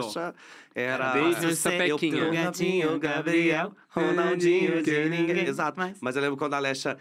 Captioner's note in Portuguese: todos cantarolam